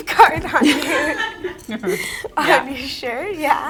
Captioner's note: all laughing